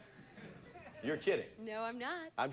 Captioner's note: audience laughing